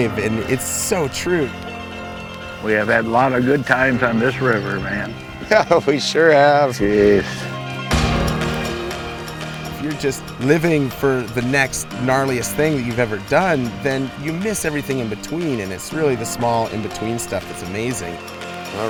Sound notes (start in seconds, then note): 5.4 laughs